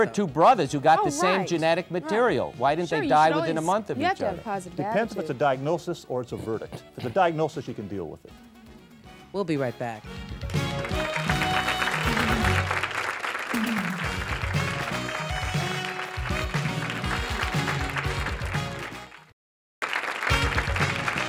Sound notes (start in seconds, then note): 10.4 audience applause; 15.0 theme music